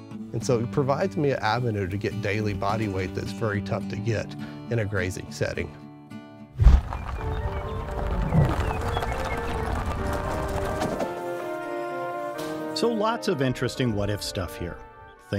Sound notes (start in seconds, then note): 6.6 camera whooshing; 7.4 bright music